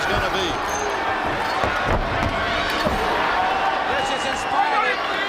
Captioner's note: crowd chatter